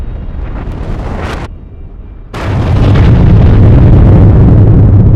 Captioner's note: loud exploding